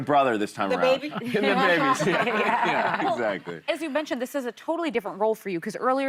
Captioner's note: laughter